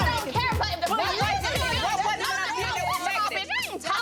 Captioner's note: indistinct shouting